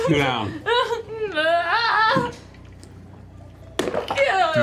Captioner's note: uncertain noises